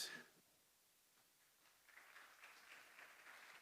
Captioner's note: applause